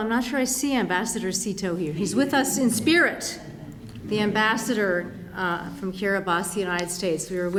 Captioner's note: laughter